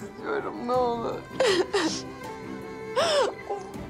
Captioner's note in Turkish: Ağlıyor